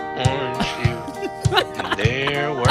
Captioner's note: laughing